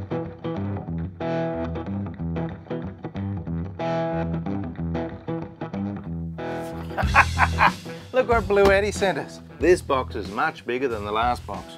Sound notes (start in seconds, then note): 6.5 upbeat music; 6.7 laughing